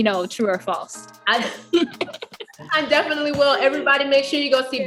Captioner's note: laughs